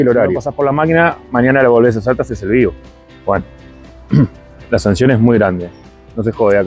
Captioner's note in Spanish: carraspeo